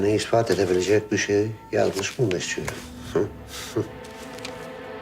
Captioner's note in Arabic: يضحك قليلاً